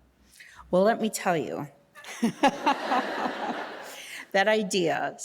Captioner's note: all laughing